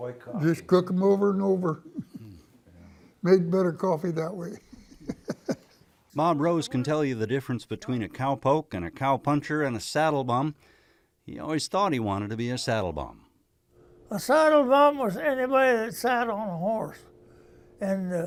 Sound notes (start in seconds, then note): 4.5 laughs